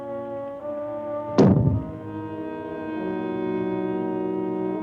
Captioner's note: explosion bangs